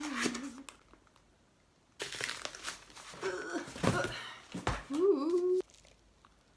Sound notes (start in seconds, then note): 0.0 rustling; 3.2 struggling